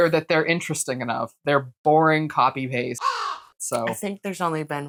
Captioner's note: caw